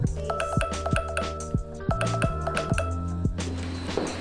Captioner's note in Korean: 알람소리